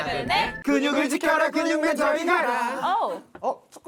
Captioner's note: wave-based pitch detection sound effect